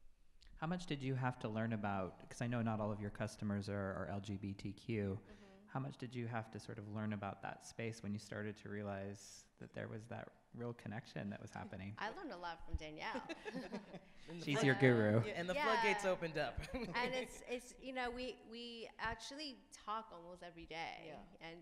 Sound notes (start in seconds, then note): 13.0 laughs; 16.5 laughs